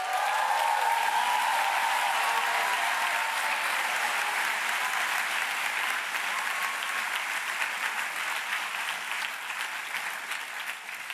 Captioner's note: applause